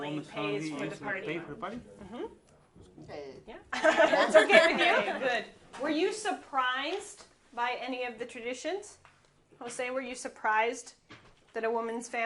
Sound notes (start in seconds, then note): 3.8 laughing